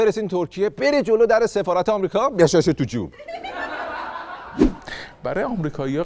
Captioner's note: laughter